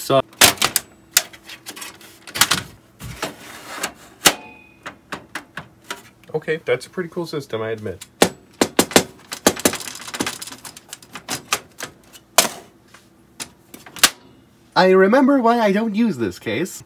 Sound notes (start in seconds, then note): 8.2 fiddles with case front panel door before slamming it